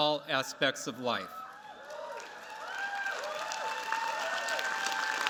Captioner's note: cheers, applause